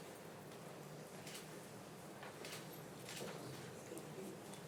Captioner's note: camera shutter clicking